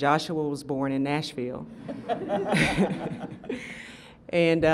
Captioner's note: laughter